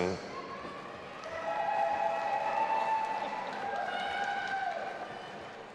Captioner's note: audience applauding and cheering